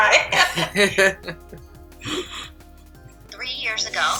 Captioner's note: narrator laughs